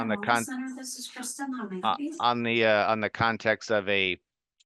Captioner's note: phone interruption